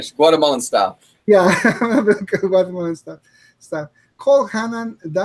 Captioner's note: chuckles